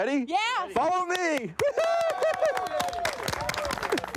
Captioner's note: crew cheers